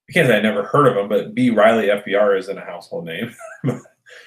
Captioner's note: chuckles